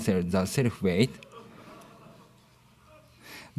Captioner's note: laughter